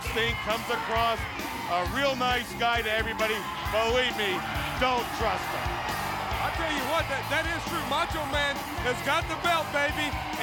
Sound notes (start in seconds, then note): 5.8 crowd cheering